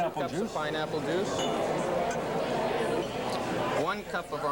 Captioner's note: restaurant chatter